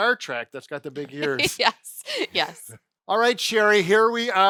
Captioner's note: laughing